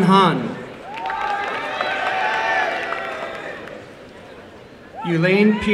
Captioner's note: applause